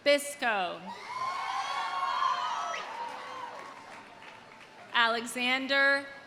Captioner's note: audience cheering; audience applauding